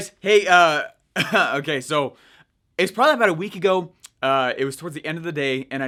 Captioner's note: chuckles